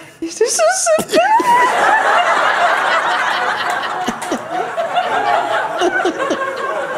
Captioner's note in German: Lachen